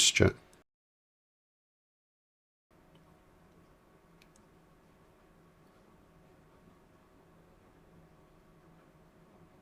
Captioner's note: silence